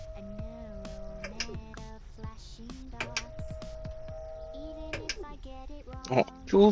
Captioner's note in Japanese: 上水ポンプが動く音; 排水ポンプが動く音